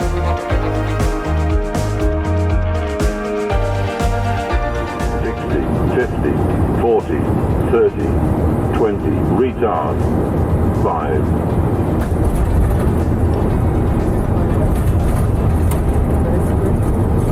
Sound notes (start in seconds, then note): 0.0 upbeat electronic music; 11.9 plane engine roaring